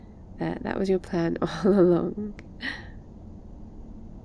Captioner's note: laughs